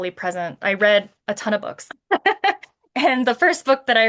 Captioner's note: laughs